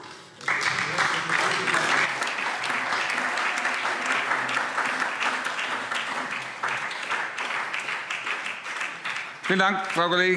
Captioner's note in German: Beifall SPD und DIE LINKE